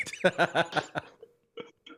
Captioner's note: laughter